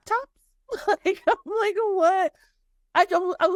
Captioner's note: laughing